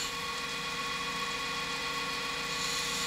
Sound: loud machine whirring

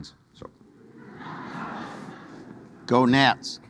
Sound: audience laughing

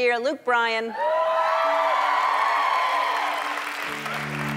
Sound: audience cheers

